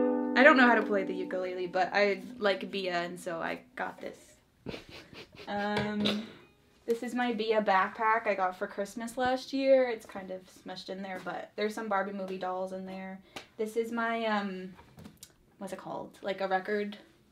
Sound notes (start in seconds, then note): 4.6 laughs